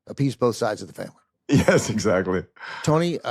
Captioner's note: laughs